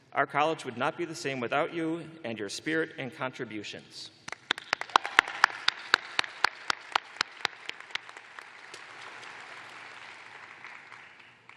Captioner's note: applause